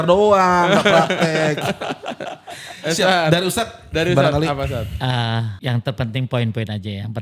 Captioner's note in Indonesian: tertawa